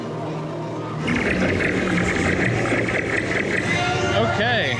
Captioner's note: lasers blasting